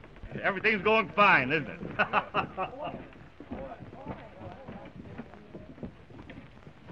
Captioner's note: laughs